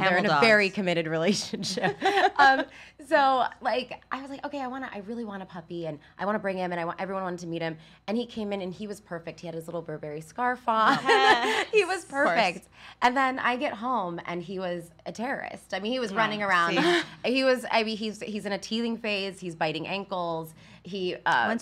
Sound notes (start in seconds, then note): 1.6 laughs; 10.8 women laughing